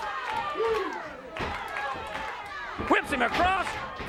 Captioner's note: audience chanting and clapping